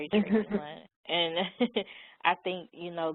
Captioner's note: chuckles